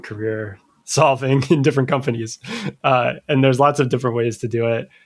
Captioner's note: uh